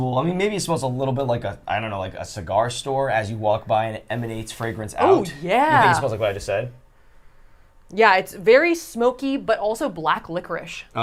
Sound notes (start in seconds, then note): 7.0 sniffs